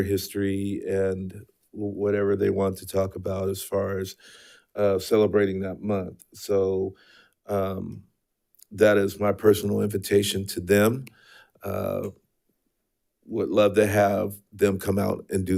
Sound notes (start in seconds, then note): none